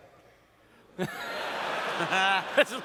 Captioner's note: laughter